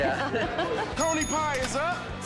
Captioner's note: laughs; bell dings